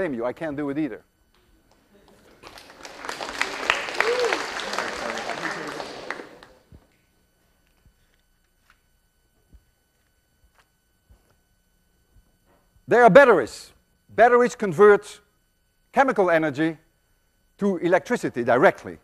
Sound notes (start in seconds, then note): 6.9 students applaud